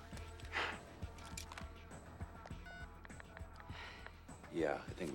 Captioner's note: dialing cell phone